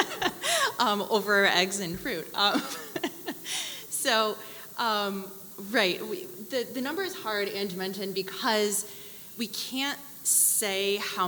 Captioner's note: laugh